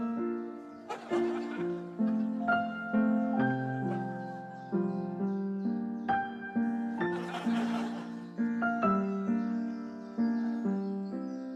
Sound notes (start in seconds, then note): 0.8 spooky music plays; 2.7 laughter; 3.5 piano music plays; 7.1 laughter; 10.1 piano music plays